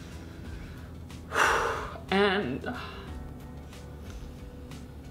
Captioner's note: exhales